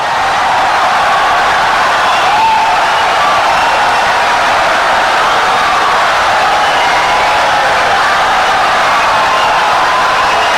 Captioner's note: wild applause and cheering for 17 seconds